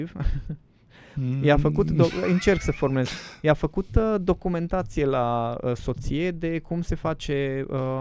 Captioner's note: laughter